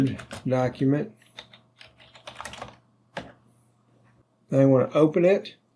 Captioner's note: keyboard clicking